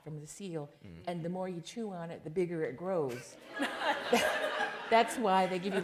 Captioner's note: laughter